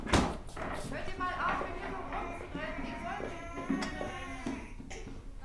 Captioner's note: German voices